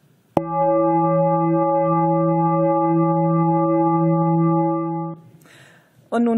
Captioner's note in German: Gong